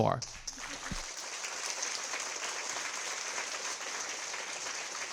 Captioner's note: audience applauding